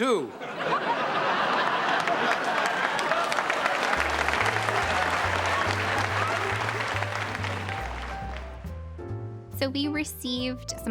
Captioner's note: laughing and clapping